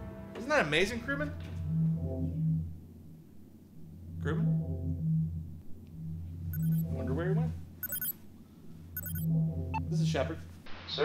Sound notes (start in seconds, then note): 7.8 communicator beeping